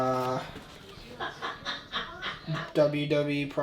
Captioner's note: laughing in background